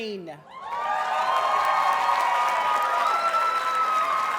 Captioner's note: audience cheers and applauds